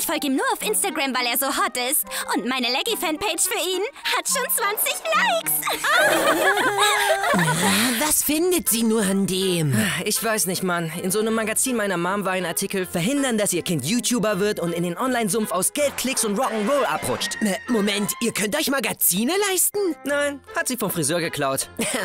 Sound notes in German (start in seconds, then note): 5.5 Lachen